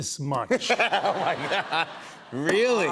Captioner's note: laughter